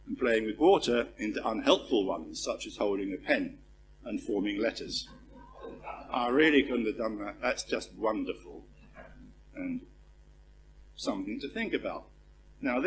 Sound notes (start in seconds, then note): 5.0 laugh